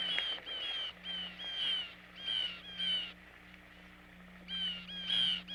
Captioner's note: nature sounds